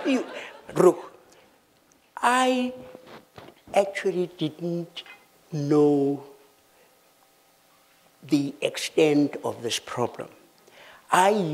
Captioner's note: laughter